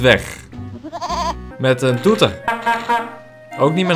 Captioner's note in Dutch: toetert